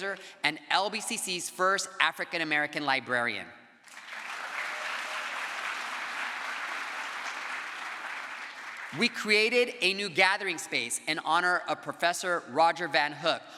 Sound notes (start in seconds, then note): 3.8 crowd applause